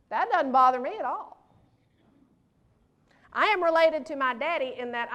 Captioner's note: none